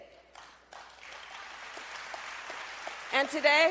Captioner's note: applause